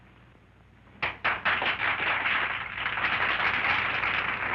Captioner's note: crowd applauding